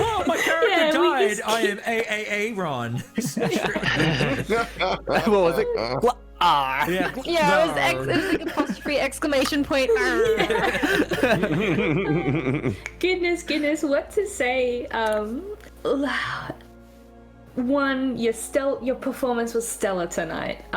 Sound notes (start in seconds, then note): 0.0 more laughter and mics peaking; 3.1 chuckles; 3.1 giggles; 6.7 glottal noise-arghhhh; 10.0 more laughter